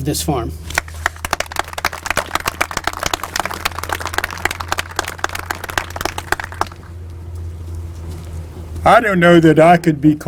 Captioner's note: applause